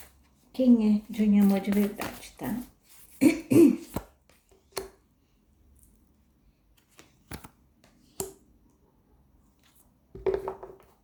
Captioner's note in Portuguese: limpando a garganta